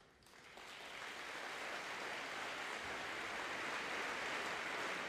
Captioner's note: audience applauding